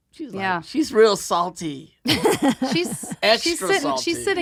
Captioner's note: laughing